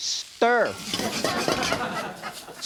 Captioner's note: cooking sounds; audience giggling